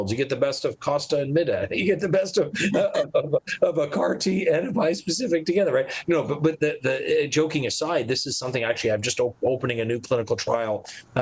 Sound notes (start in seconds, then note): 2.4 group laughing